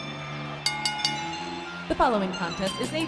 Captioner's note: bell ringing